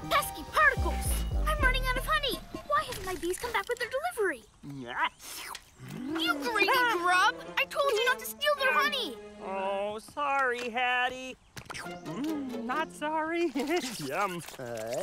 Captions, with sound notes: Pesky Particles! I'm running out of honey! - Why haven't my bees come back? - (Slurping) You greedy grub! I told you not to steal their honey! Oh, sorry, Haddy. (Slurping) Mmm... not sorry! Yum!